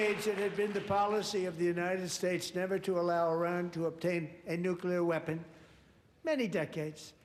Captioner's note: applause